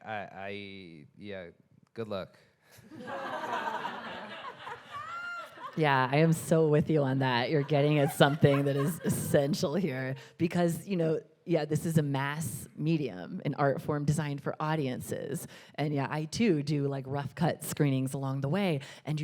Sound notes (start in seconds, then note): 2.9 audience laughing